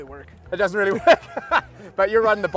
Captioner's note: laughs